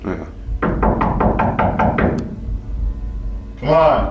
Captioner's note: loud banging